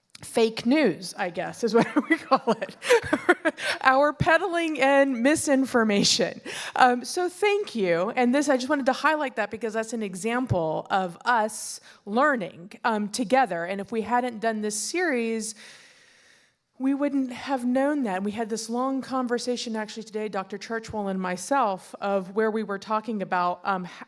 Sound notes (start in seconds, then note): 1.7 laughing